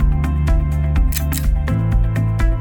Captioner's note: click